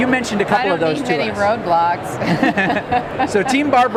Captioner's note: laughs